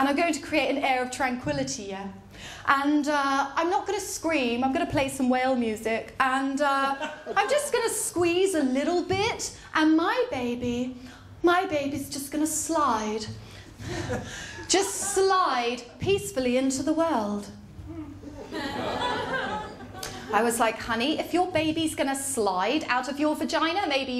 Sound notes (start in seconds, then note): 18.2 laughter